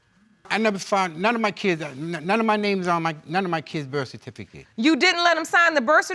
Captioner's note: stammering